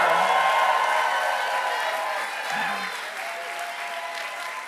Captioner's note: applause